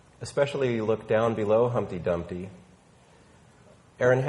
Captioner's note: none